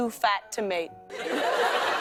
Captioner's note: laughter